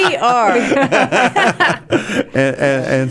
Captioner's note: laughing